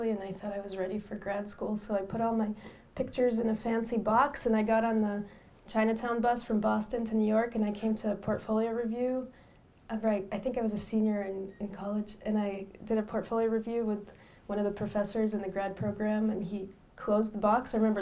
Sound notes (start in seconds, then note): none